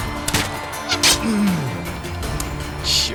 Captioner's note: groans in pain